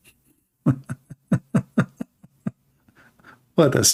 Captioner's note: Ketawa